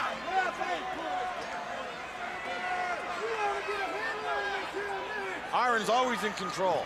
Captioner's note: crowd chatter